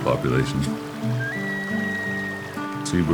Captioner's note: bird cry